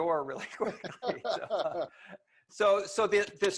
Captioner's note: laughs